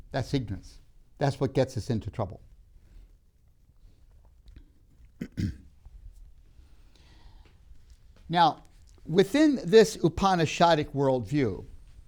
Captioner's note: clears throat